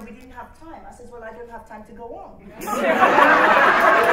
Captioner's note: laughter